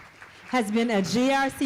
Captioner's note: applause